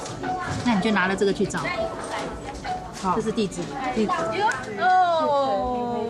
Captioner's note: speaking in foreign language